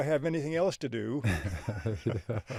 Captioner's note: both laughing